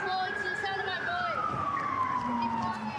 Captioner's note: sirens